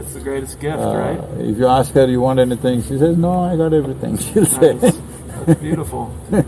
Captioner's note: laughs